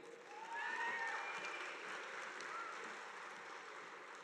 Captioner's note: audience applauding